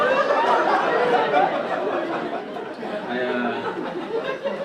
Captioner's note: audience laugh